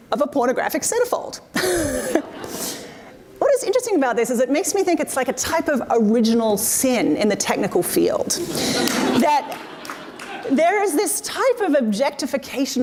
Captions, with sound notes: of a pornographic centerfold. (laughing) What is interesting about this is, it makes me think it's like a type of original sin in the technical field (audience laughs) that there is this type of objectification